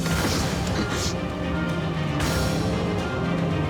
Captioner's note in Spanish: sollozos